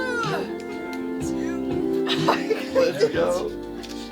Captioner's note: group groaning